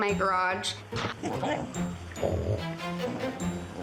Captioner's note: Lola growling